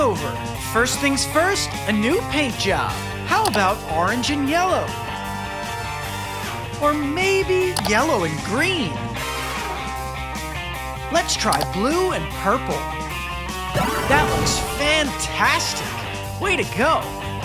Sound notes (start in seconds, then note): none